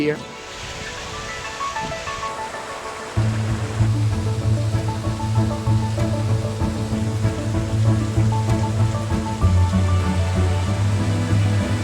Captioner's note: water sounds